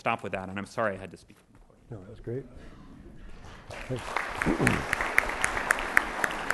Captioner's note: audience applauding